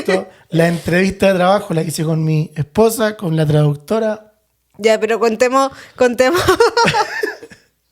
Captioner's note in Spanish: risas